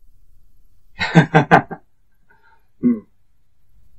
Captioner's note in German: lacht